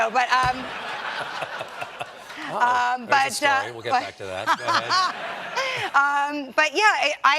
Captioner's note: laughter